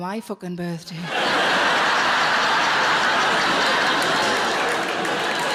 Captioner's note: audience laughing; audience applauding